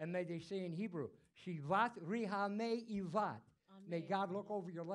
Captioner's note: speaking in foreign language